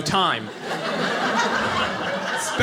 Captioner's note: audience laughing